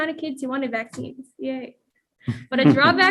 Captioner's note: chuckles